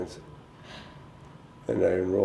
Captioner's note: chuckle